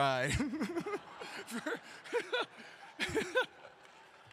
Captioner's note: audience clapping